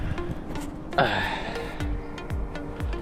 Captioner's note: old man grunt